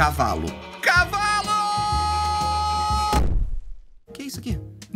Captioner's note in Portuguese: som de pancada